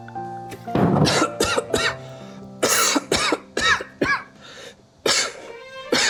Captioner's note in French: Tousse, tousse, tousse